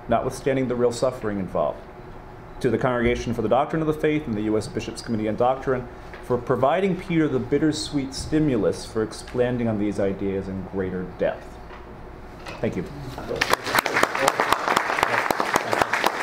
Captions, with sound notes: notwithstanding the real suffering involved, to the Congregation for the Doctrine of the Faith and the U.S. Bishops Committee on Doctrine, for providing Peter the bittersweet stimulus for expanding on these ideas in greater depth. Thank you. (clapping)